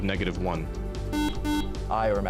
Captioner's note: beeping